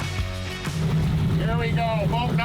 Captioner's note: engines rumble